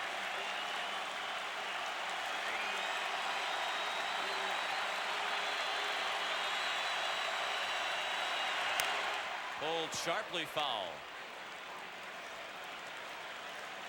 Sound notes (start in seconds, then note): 2.3 applause; 3.4 cheering and Applause